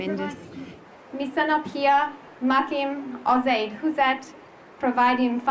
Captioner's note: in local language